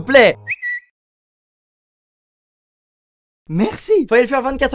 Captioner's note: Twitter whistling